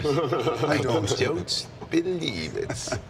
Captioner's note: Wade laughs